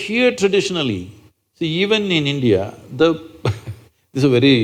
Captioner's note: laughs